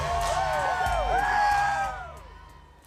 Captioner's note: crowd cheering